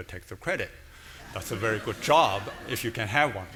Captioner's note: audience laughing